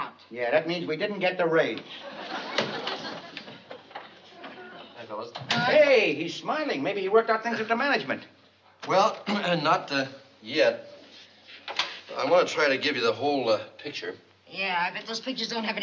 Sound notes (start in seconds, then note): 9.4 clears throat